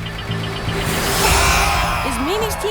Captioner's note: buzzer blares; crowd cheers; buzzer blares